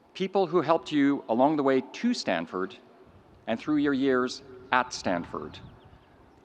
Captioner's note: none